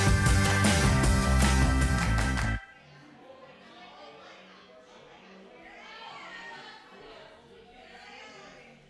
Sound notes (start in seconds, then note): 3.7 chatter